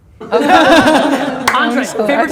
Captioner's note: laughter